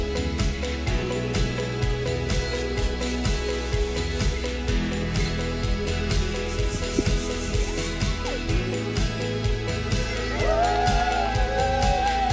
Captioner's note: champagne spraying